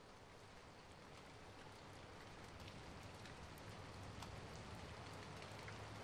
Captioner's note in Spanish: El sonido de lluvia regresa